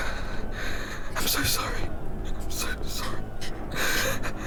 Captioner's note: whisper